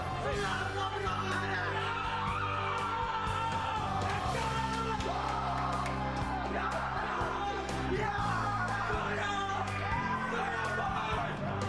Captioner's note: cheering